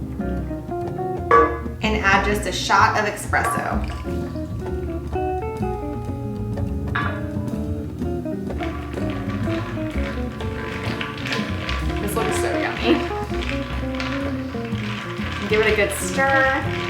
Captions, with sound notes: And add just a shot of espresso. (relaxed music continues) (ice rattling) This looks so yummy. Give it a good stir.